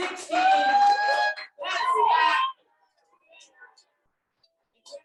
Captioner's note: audience cheers